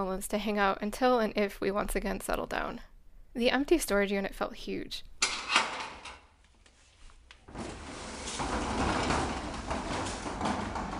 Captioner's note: storage unit opening audio